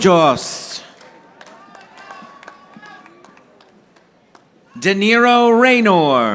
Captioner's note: audience applauding